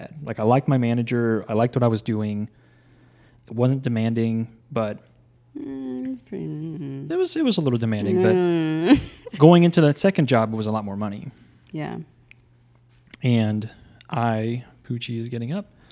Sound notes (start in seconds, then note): 5.6 mumbles; 8.0 groans